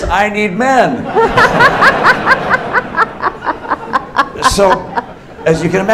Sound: laughter

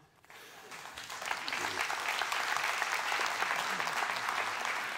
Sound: applause

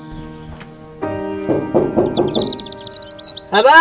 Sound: Knocking

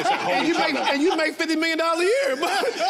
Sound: all laugh

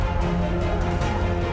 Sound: vomit sound

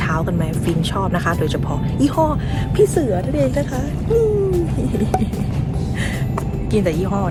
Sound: laughs

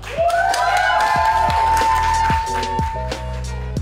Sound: crowd cheers

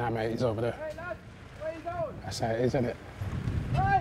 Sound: shouting

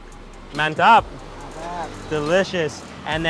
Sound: both speaking in foreign language

